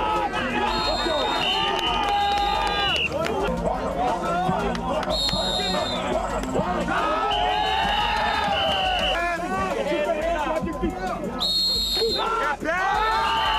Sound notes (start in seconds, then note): 1.6 whistle; 5.0 applause